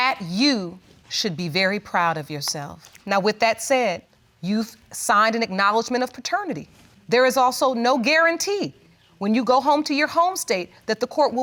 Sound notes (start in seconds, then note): none